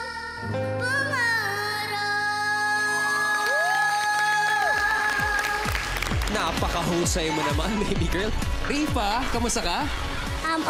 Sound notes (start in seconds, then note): 3.0 applause, cheering